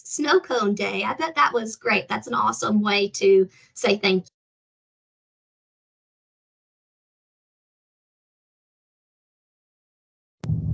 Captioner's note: sound muted